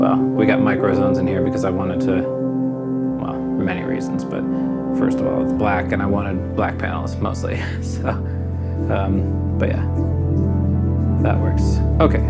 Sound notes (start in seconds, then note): 8.5 laughs